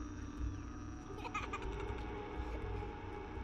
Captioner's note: girl laughs; spooky music